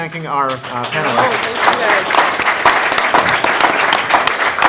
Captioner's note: applause